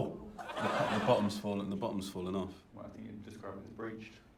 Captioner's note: laughter